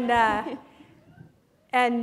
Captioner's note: laughter